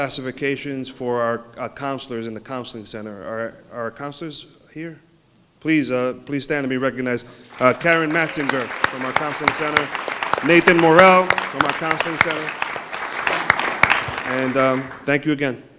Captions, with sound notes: reclassifications for our counselors in the Counseling Center. Are counselors here? please stand to be recognized. Karen Matsinger from our Counseling Center, Nathan Morell from our Counseling Center.[applause] ...and thank you again